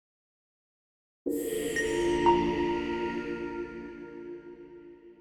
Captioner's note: windows chimes